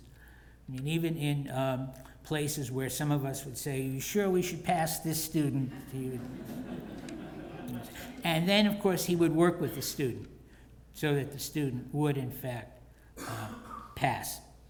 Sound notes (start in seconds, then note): 5.7 laugh